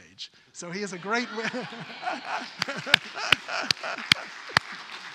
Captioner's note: audience applause